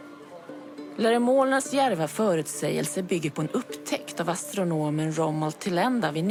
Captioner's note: reporter speaking foreign language